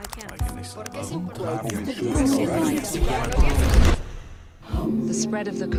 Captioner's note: overlapping chatter